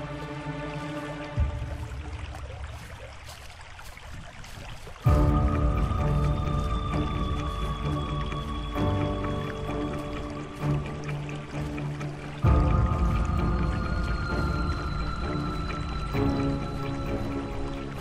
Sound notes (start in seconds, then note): 1.7 creek flowing; 5.0 scary music